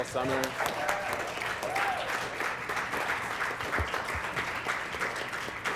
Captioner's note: applause